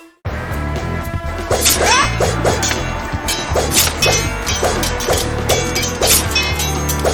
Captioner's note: dramatic music; swords clanging